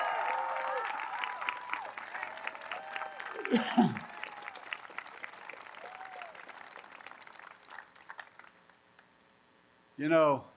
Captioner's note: applause